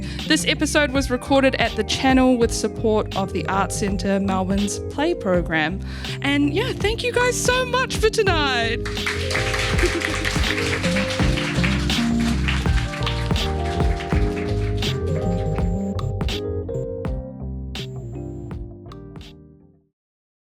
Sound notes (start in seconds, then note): 8.8 applause; 17.2 upbeat music